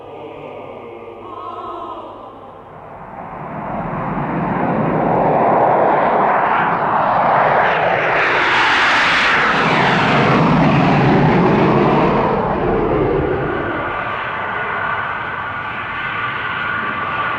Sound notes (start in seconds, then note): 2.8 engines roar